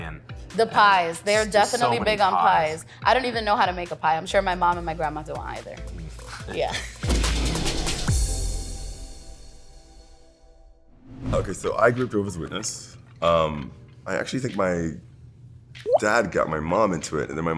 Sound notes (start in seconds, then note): 6.0 laughs; 6.9 drum riff; 7.9 sustained music note